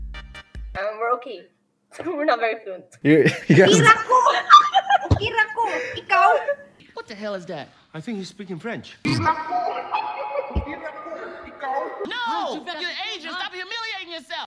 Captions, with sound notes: Uhhm we're OK! We’re not very fluent (speaking foreign language) What the heck is that? I think she's speaking French. No! you’re asian! stop humiliating yourself!